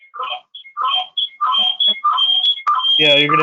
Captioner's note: screeching